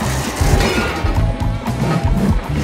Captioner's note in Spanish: ¡crack!